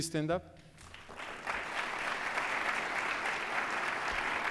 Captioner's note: applause